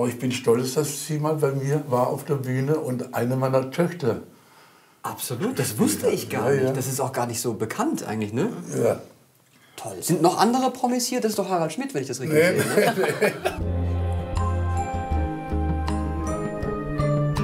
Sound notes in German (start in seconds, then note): 14.1 lachend